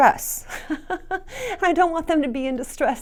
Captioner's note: laughs